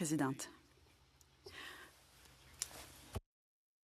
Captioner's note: speaking French